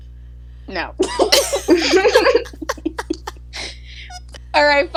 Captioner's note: collective laughter